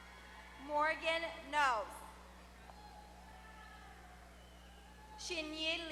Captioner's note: applause; applause